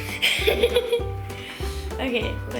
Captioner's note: laughter